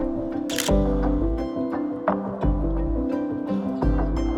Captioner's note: camera shutter clicks